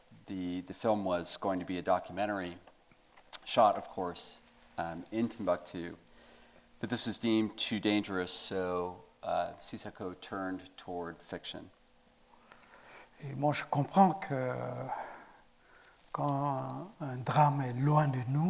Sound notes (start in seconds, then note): 13.4 speaking in French